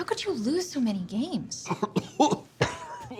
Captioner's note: coughing